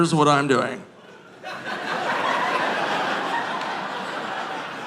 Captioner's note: audience laughing